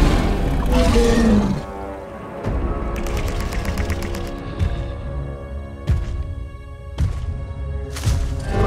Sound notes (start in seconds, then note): 2.5 growls